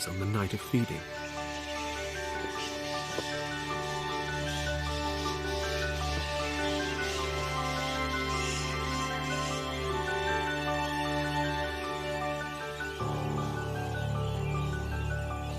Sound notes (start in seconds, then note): 1.6 calm music; 6.4 bats squeaking